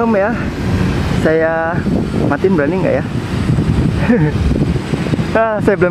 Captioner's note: chuckle